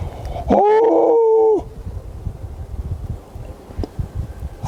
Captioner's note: yelps